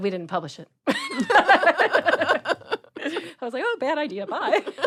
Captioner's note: laughs